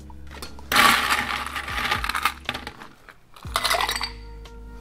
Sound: ice rattling

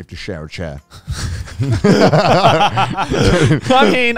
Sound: all laughing

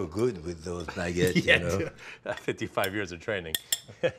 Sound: laughing; Ming laughs

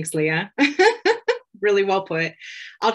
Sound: chuckles

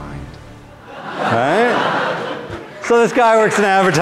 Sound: students laugh

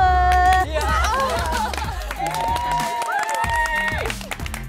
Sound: applause and cheering

